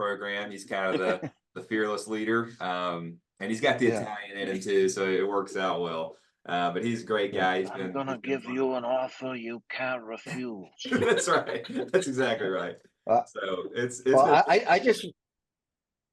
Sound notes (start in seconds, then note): 10.8 laugh